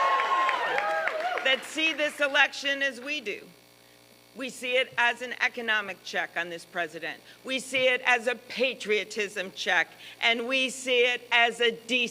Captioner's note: applause